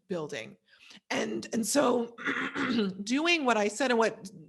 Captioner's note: clears throat